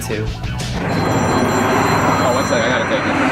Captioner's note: phone rings